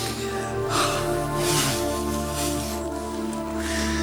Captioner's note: sighs